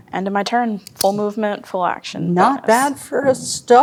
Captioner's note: pen clicking